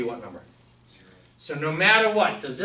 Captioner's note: voiceover